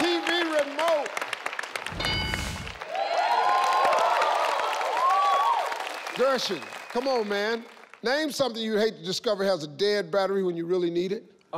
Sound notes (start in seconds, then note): 3.4 crowd cheering